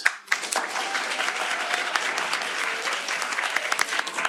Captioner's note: applause